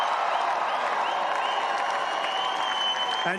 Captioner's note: applause